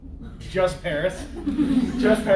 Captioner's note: laughter